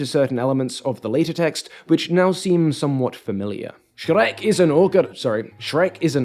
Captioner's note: bad Scottish accent